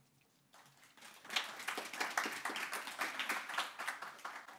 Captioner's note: audience applauding